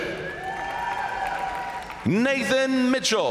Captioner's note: crowd cheering; crowd applauding